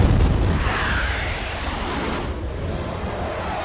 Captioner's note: boom, whoosh; jet engine